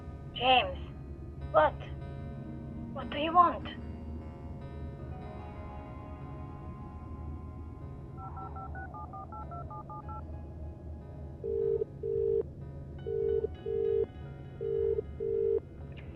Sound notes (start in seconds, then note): 8.2 line beeping; 11.3 line trilling